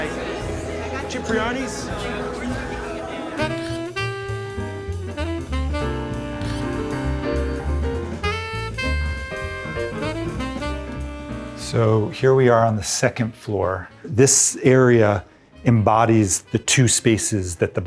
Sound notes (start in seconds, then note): 0.3 gentle instrumental music; 2.2 indistinct chattering; 3.3 gentle jazz music